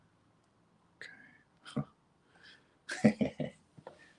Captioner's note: laughs